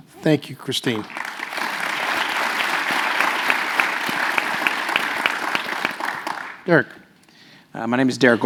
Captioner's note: applause